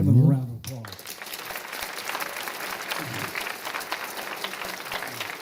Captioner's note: applause